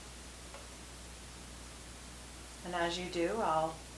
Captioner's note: click